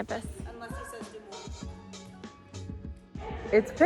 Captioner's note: woman murmuring